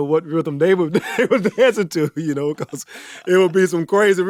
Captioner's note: chuckles